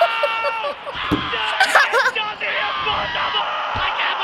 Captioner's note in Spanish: risa; comentaristas deportivos se vuelven locos